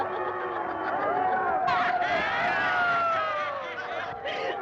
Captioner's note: laughs; booing and jeering